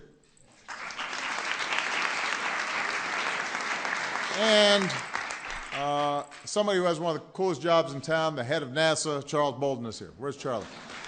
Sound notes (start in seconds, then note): 2.1 applause